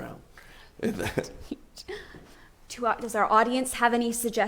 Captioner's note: laughs